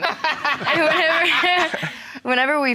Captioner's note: audience laughing; chuckles